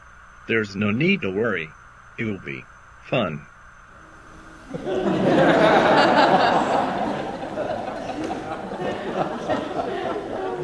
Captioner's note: laughter